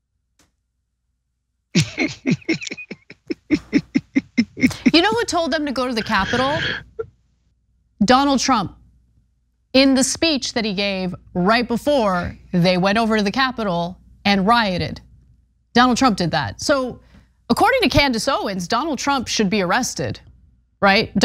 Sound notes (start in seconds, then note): 1.7 laugh